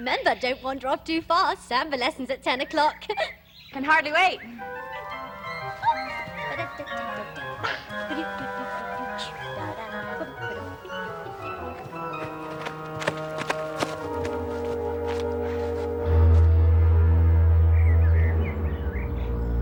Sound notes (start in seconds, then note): 2.6 giggles; 6.0 Vivian humming; 15.7 ominous music